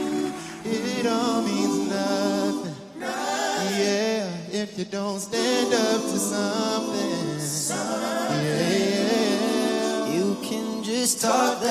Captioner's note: applause